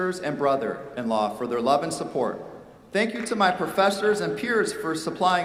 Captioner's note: none